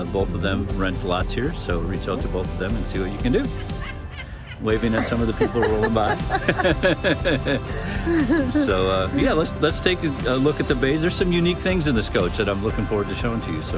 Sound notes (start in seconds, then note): 4.6 women laughs; 6.4 laughs